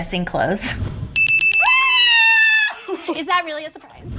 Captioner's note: cheering